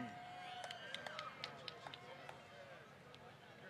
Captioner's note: applause